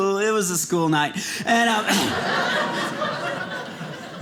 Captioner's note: audience laughing